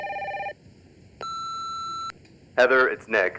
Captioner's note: phone ringing; answer machine beeps